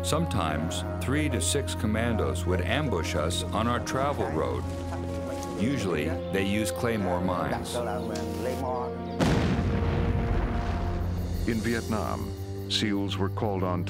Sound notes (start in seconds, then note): 9.2 explosion; 11.6 voiceover